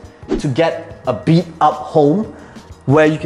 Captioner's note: air whooshing